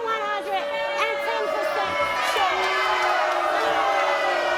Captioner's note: crowd boos